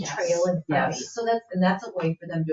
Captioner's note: people chattering